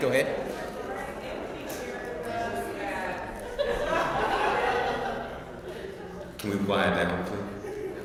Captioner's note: laugh